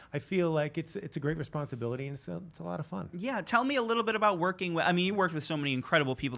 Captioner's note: none